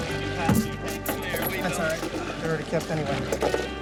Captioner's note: diving gear clattering against the boat